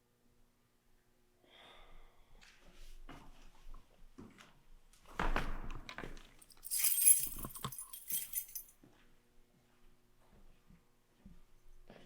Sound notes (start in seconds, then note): 6.4 keys clanging